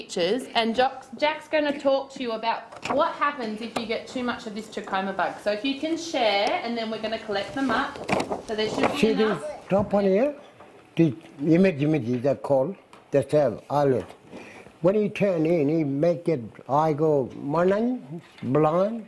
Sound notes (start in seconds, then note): 9.0 speaks in Indigenous language; 16.6 speaks Indigenous language